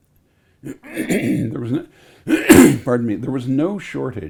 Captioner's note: clears throat